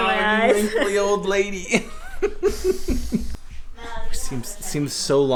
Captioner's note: laughter